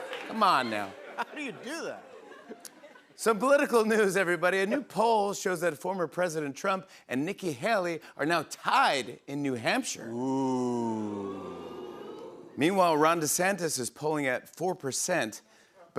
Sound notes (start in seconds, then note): 10.2 audience "Oohs"